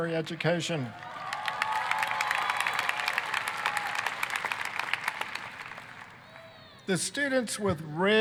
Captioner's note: applause, cheering